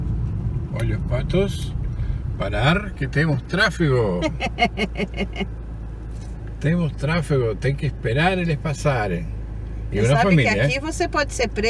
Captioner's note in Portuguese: risos